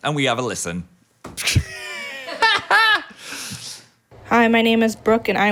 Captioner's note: and producer laughing